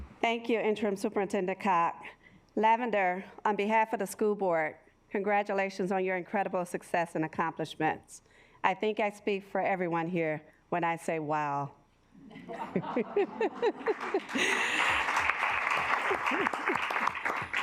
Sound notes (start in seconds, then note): 12.6 assembly laughing; 14.8 assembly clapping